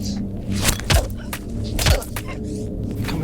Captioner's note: Sarah grunting